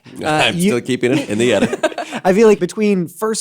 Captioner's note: laughter